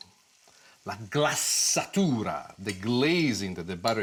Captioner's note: speaks a foreign language